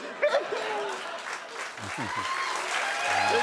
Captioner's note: giggles; cheers and applause